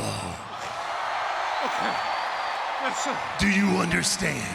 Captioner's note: crowd cheering